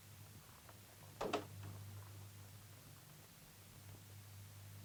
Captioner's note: door closes